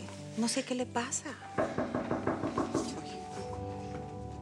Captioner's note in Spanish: Toques en la puerta